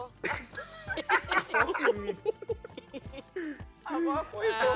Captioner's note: everyone laughs